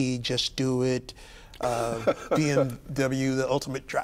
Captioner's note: laughing